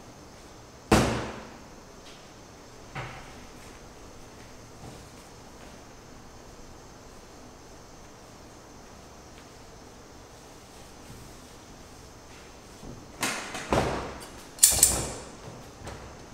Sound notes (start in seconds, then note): 13.6 thud; 14.6 snip snip